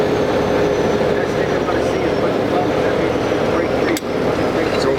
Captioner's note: chatter